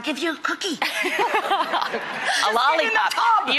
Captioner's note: all laughing